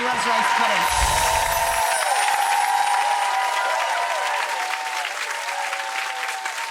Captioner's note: cheering, applause, and twinkling music